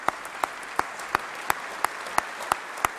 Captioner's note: applause